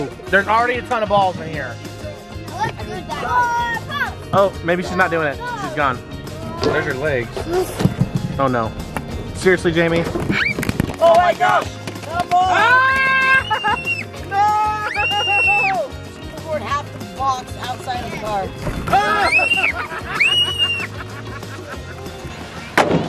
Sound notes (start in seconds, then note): 12.5 all screaming; 18.9 all screaming and laughing